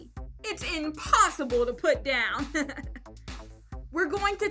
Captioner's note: laughs